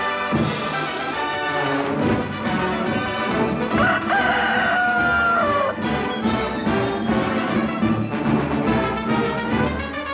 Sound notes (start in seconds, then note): 3.6 rooster crows